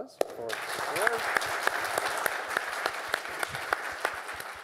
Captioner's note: applause